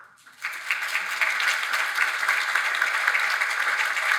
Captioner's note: audience applauds